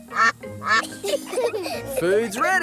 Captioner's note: quacking; children giggle